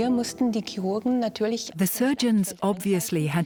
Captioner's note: in German; dubbed in English